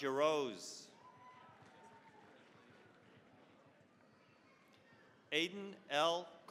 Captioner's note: cheering, applause